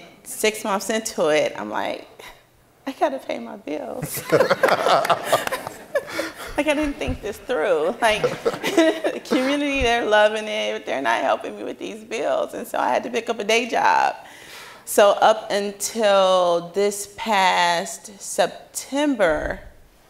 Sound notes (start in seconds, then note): 4.0 laughing